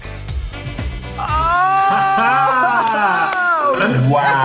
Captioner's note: gasping